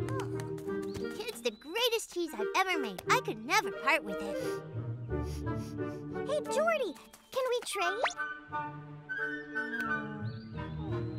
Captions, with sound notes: Oh. It's the greatest cheese I've ever made. I could never part with it. [sniffs] Hey, Jordi, can we trade? Hm.